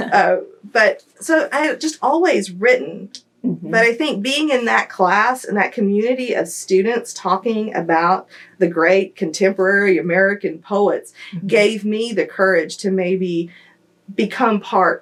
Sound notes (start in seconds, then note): 0.5 laughter